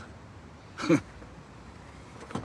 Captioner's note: he chuckles